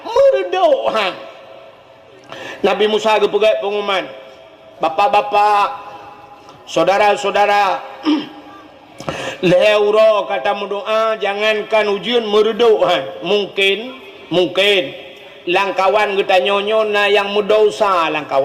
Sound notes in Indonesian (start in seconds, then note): 8.0 berdehem